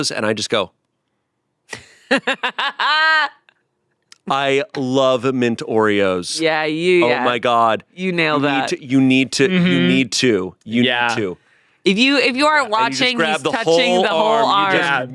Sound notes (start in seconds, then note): 1.8 laughs